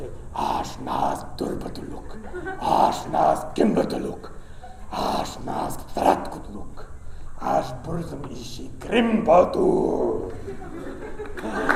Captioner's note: speaking black speech of mordor